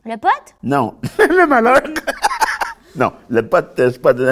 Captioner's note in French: rire